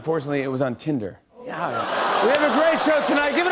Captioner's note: audience groans